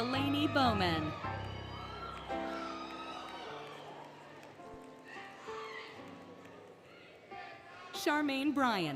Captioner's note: applause, Cheering, Music